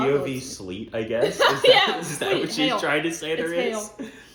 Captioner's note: laughing